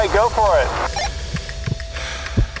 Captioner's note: walkie talkie clicks; person breathing